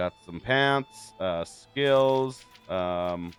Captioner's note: fire crackles